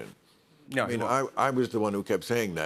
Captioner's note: none